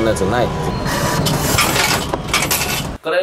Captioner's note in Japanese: 小銭が落ちる音